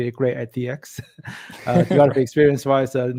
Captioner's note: laughing